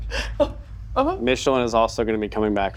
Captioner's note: laughing